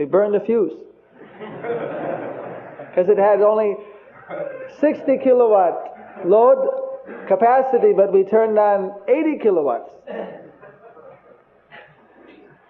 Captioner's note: devotees Laugh